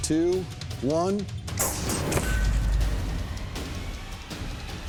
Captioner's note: whoosh, clang